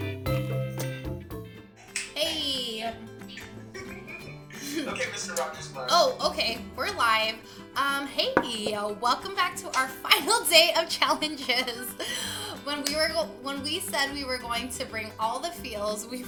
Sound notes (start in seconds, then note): 3.7 laugh